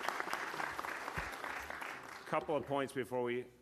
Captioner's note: applause